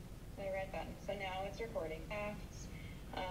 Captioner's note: recorded Voice